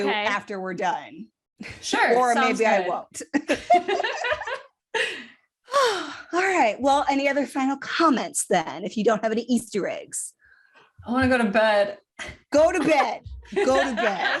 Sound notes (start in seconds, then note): 3.2 laughter; 5.6 sighs